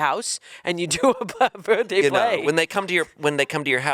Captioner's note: chuckling